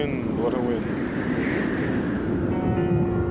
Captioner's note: wind blows